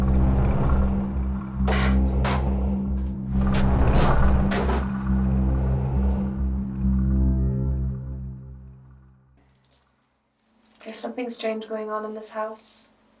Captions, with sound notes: [board snaps] - There's something strange going on in this house.